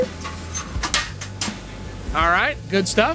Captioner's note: chains clunking